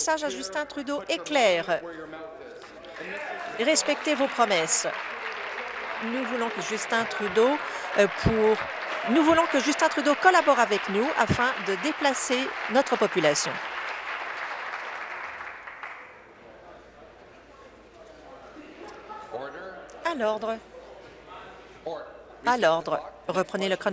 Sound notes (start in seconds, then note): 8.4 applause